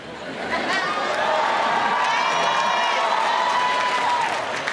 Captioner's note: audience cheering